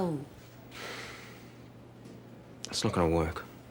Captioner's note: sighs